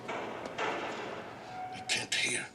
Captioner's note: door opens in distance